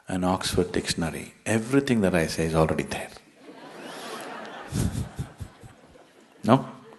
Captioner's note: laughter; 笑聲